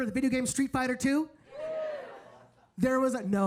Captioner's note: audience cheering